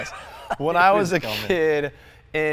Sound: laughing

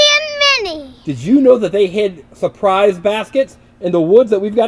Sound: voiceover

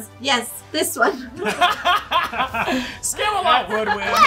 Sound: laughing

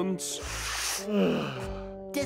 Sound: inhaling

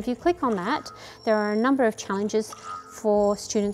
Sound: electronic hiss

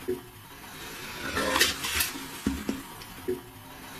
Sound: growling

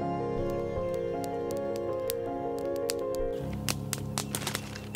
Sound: fire crackling

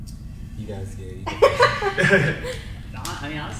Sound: panel laughs

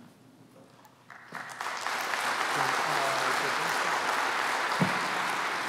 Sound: applause

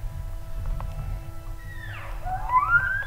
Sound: caller cow calling; elk bugling

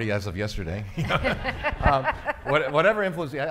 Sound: laughing

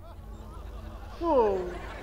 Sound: sobbing

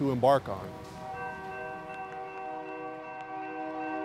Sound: train whistles

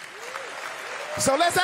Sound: applause; cheering

